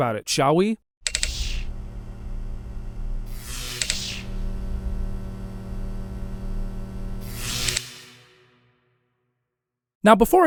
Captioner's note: electric sounds